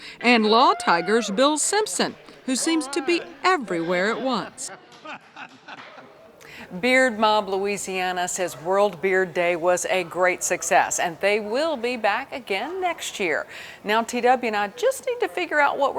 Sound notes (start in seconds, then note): 4.6 man laughs